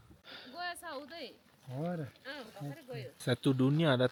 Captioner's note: speaking Nepali